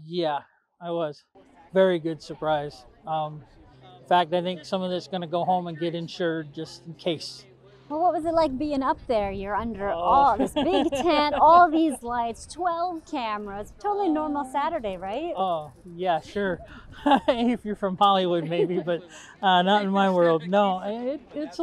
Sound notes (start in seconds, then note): 10.0 laughs; 16.6 laughs